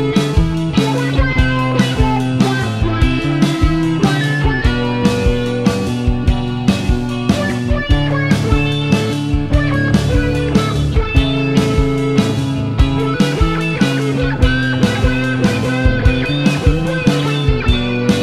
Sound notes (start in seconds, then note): 7.0 laugh